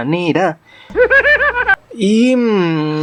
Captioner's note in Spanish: Risa troll efecto